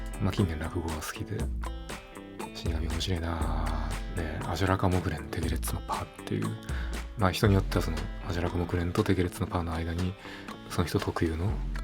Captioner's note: claps twice